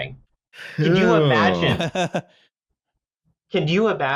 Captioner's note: brief, surprised reactions